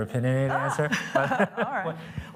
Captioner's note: laughs